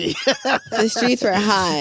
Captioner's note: laughs